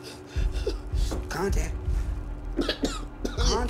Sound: blows; coughs

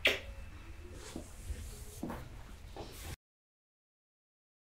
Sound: kiss

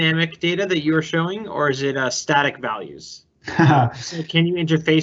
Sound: laughing

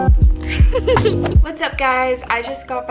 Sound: laughing

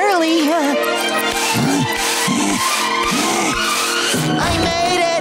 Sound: panting

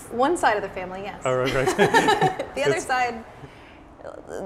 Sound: laughs

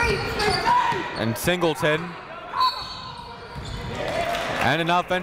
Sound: whistle blows

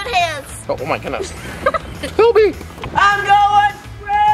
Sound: children chuckling

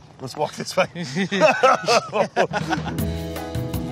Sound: laughing; elevator music

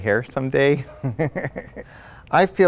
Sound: laughs

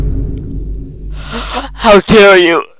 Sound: gasp

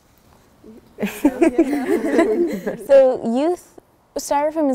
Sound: laughing

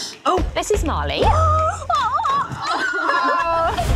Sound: cheering

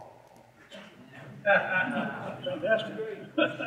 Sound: audience laughing

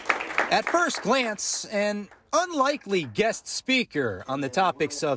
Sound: applause

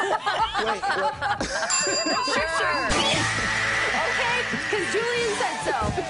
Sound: laughter

